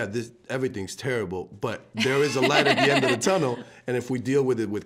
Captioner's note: laughing